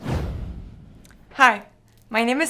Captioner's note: air whooshing